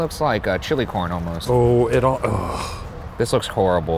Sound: sighs

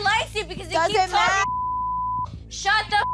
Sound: beep

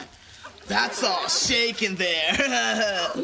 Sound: chuckles

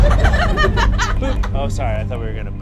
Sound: audience laughs

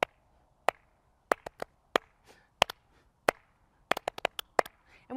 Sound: clapping

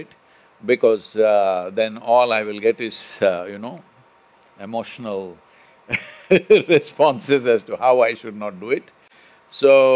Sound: laughs

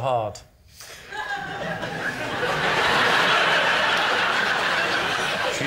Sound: laughter

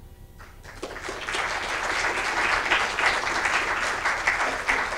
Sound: audience applauding

